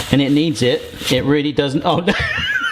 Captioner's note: laughs